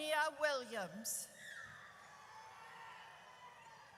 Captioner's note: audience cheers